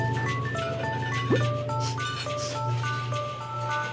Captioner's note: sniffs